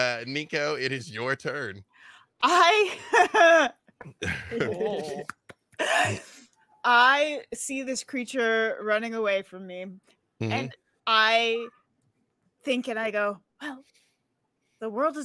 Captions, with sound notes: Niko, it is your turn. - I (laughs), I see this creature running away from me and I think and I go, well, the world is a globe.